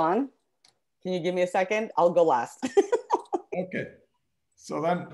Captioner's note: laughs